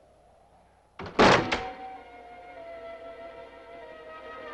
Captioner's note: door thuds; somber orchestral music